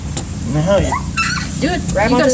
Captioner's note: squeaks